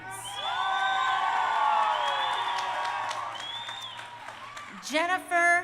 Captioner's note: crowd cheering